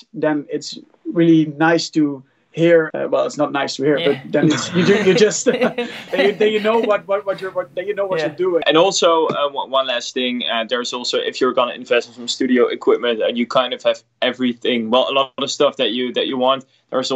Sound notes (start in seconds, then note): 4.0 laughing